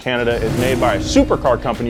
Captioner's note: engine zooms